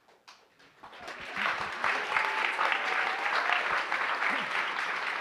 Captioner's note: cheers, applause